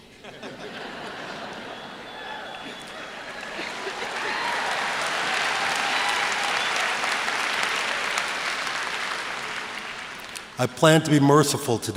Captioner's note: laughter, applause